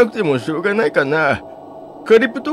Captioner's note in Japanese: none